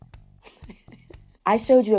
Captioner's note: laughs